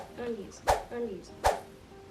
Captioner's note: air whooshing